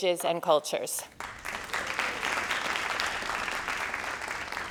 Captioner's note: crowd applauding